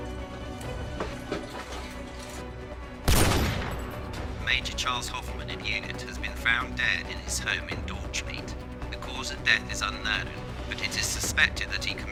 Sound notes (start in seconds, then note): 3.0 gunshot